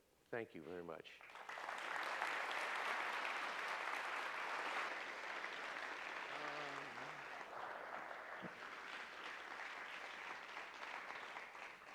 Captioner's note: applause